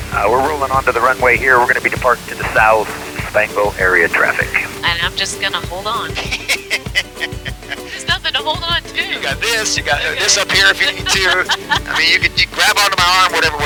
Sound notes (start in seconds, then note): 6.1 laughing; 6.3 upbeat music continues